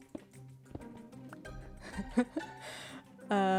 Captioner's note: laughs